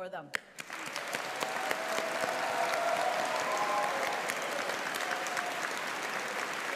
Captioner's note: audience applauding; audience cheering